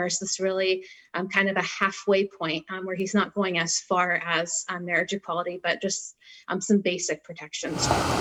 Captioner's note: car drives